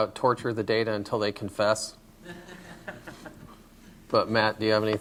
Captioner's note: laughter